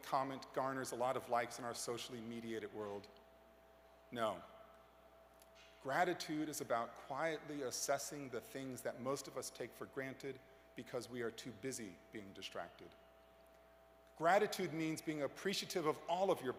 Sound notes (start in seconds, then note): none